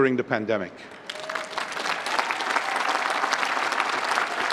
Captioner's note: applause